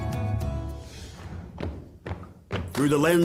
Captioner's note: stomping